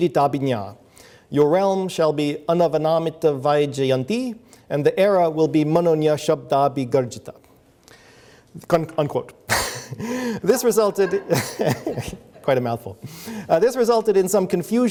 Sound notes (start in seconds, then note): 9.6 laughs; 10.4 audience laughs